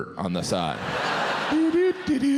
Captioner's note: audience laughs